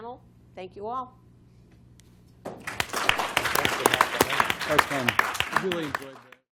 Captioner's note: applause